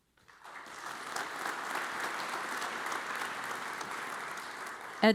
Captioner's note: audience applauds